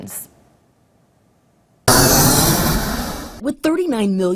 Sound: nat sound of plane landing

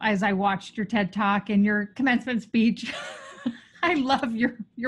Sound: laughs

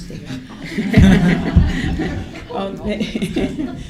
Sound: laughter

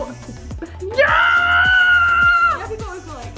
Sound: screams

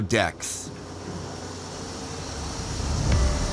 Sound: steam blowing

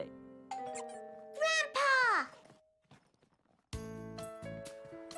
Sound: doorbell

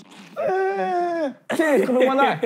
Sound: mimicking crying

